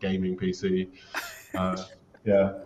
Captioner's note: laughs